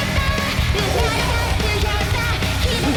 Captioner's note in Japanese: 甚右衛門の 震える息遣い